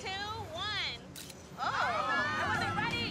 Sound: camera clicking

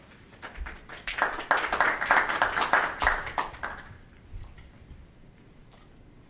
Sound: audience members clapping

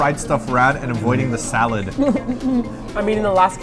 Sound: laughs

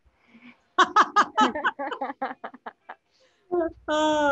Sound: panelists laughing

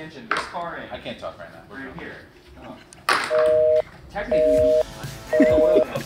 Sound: upbeat instrumental music; dial tone beeping

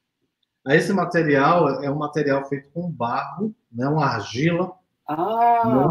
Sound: speaks portuguese

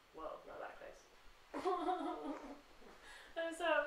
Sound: fakes crying in frustration

